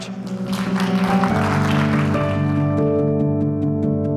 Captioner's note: applause